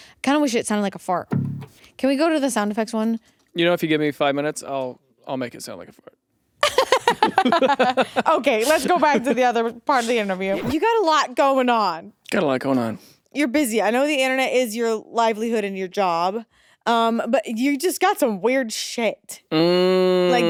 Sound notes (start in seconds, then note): 6.6 laughs